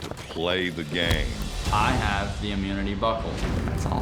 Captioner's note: falls down